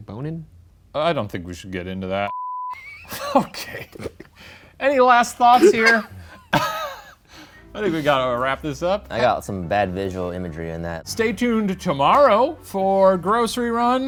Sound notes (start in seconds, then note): 2.3 beep; 5.5 laughing